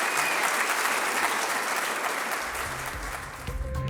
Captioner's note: hand claps; dramatic music